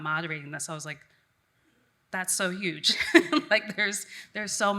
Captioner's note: laughs